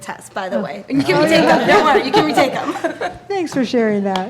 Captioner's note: laughing